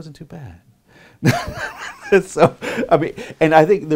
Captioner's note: laughing